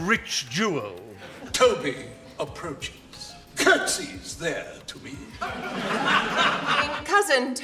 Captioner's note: audience laughter; more audience laughter